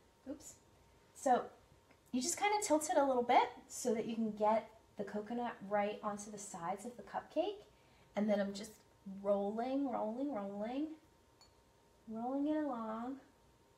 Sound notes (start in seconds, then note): none